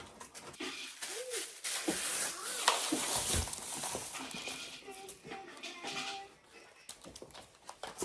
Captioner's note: toy sounds